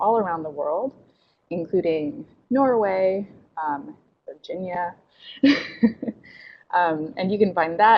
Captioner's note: chuckles